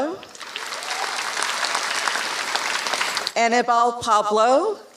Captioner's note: applause